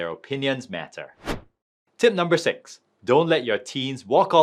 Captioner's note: screen wipe whooshes